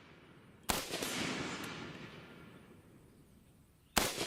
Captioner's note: gun shots